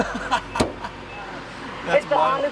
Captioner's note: laughing